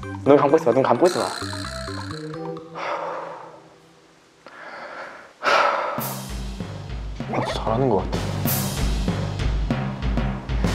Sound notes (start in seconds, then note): 2.6 taking a breath; 4.4 deep breathing